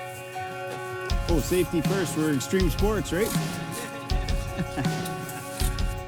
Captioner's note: laughs